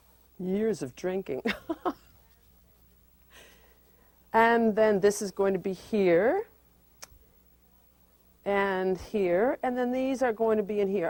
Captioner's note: chuckles